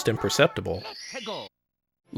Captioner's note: Mario voice: "Let's a go!"